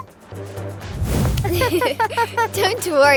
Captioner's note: giggles; laughing